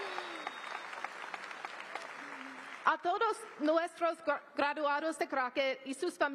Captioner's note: applause